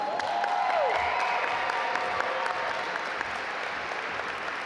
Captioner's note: audience applaud